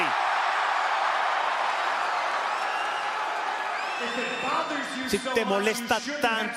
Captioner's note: applause